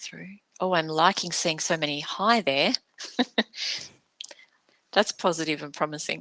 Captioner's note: chuckles